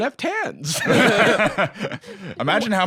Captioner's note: both laugh